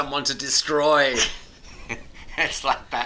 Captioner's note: both chuckles